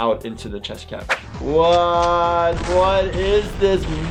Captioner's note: gun shots